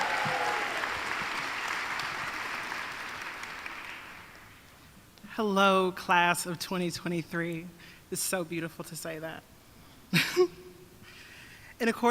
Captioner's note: applause